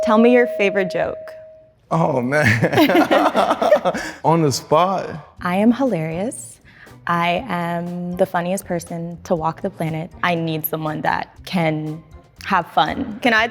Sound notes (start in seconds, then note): 2.4 laughing